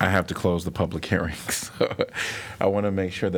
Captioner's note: laughter